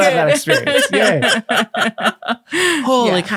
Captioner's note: laughing